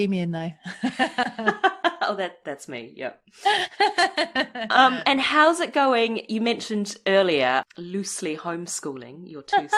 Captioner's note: laughs